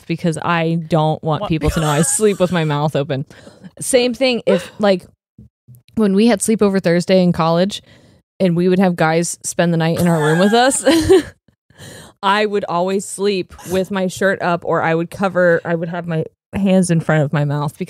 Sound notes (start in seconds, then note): 10.0 both laughing